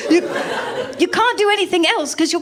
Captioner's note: laughter